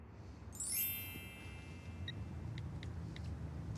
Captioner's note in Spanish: Sonido de mensaje entrante